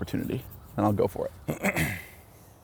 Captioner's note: clears Throat